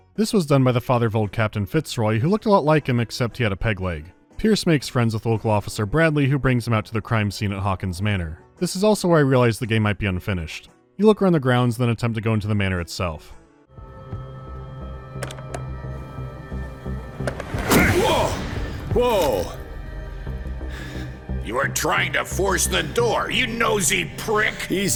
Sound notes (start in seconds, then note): 15.2 clicking of a locked doorknob; 17.2 chop